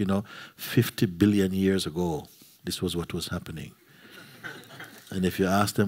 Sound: laughter

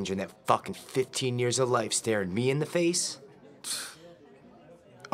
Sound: snort

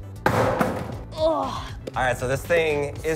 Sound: thump

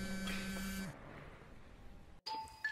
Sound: phone buzzes

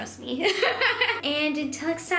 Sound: laughing

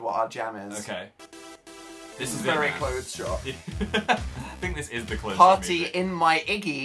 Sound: laughs

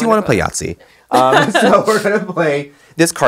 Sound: both laughing

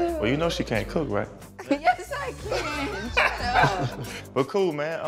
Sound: laughing

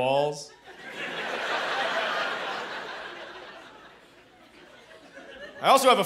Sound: laughter

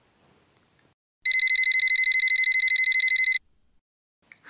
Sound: phone rings

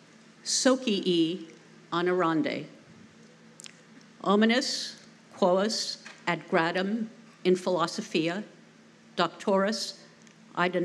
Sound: non-english speech

